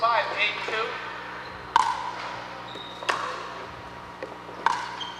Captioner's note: ball bouncing